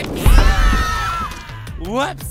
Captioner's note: screaming